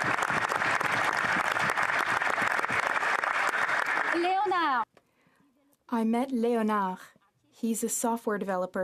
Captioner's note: applause